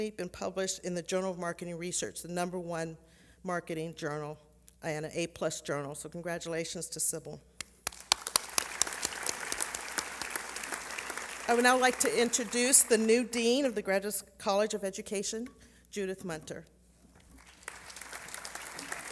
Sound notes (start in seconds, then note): 7.8 applause